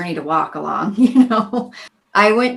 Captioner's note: laughing